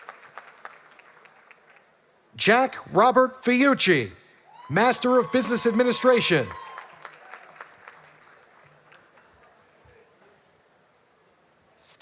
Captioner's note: graduates walking